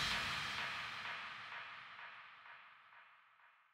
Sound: whooshing air

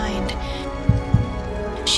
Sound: heartbeat

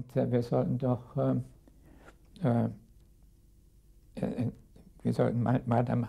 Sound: speaking in a foreign language

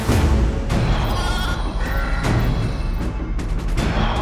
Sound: goats bleating

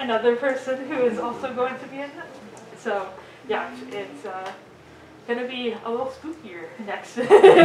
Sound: audience giggles

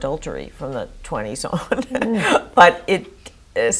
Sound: chuckles

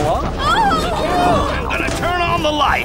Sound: yelling

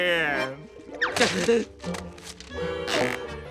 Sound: gasping

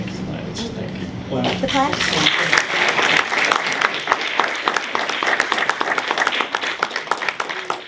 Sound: applause

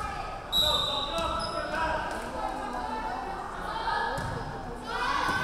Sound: referee whistling

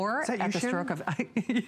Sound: laughter

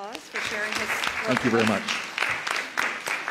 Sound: applause

